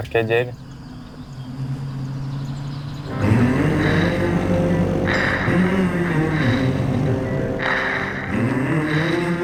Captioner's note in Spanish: Motor de vehículo